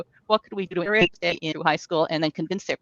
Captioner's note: speaks faintly